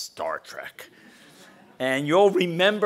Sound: laugh

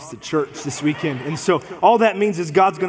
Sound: congregation laughs

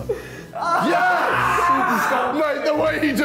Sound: screams

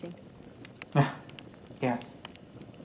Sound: laughs

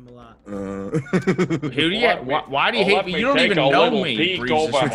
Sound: laugh

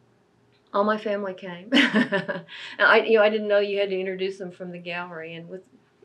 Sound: laughs

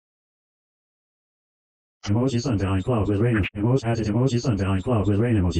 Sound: voiceover speaking

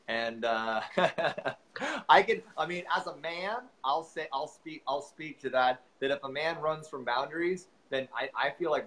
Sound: chuckles

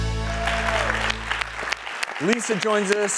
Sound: audience applauds

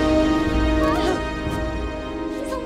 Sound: gasping

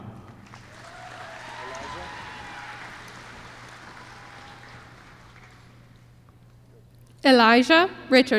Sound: applause

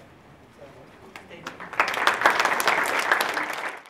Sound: applause

